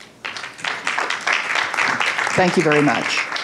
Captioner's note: applause